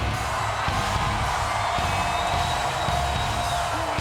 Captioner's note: dramatic music; audience cheers